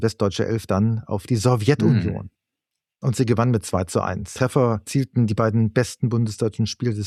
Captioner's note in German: räuspern